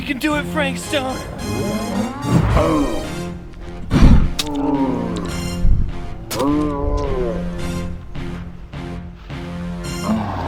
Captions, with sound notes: - You can do it, Frank Stone. (riverbeast roars)